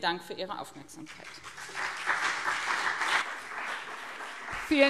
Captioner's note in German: Beifall BÜNDNIS 90/DIE GRÜNEN und CDU